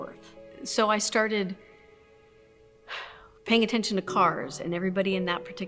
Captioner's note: exhales